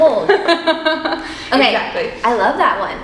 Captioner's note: both laughing